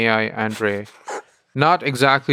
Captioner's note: Lex laughing